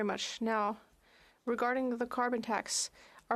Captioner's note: speaking French